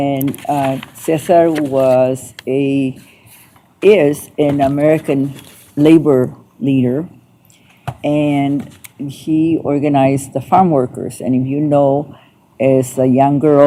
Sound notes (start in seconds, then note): none